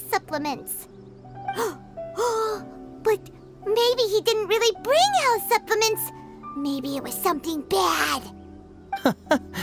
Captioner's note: gasp